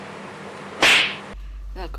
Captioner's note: hard slaps